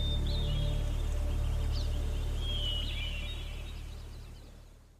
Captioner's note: birds chirping; music fades